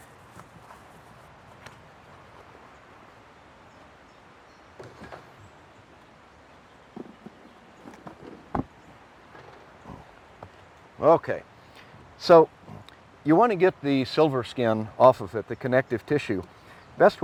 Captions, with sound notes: [ wind rustling ] OK. You want to get the silver skin off of it, the connective tissue.